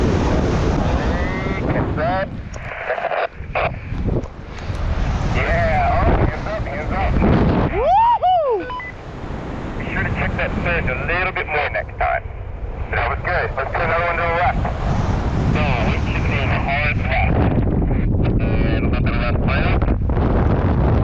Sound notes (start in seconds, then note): 6.7 roaring wind drowns out the radio; 7.7 pilot joyfully screams; 8.6 radio beeps; 20.8 roaring wind drowns out the radio